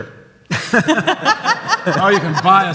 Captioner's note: audience laughs